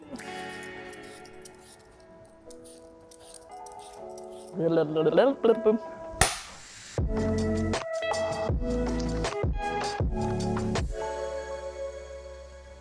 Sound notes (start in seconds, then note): 0.3 gentle music; 6.2 clapperboard clapping; 7.2 gentle music